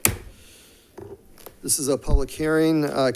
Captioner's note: gavel banging